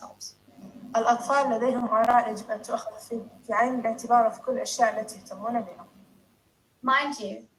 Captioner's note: foreign